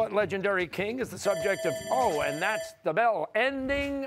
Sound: bell rings

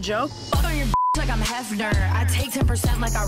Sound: beep

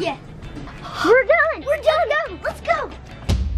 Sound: gasps

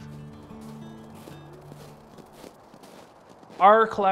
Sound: snow crunching

